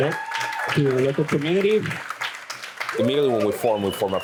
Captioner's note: crowd applauding